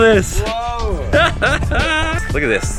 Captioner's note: laughs